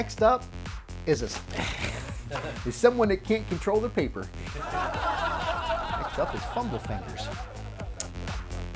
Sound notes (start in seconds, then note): 4.5 laughs; 8.4 upbeat electronic music